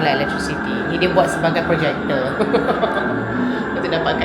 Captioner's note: laugh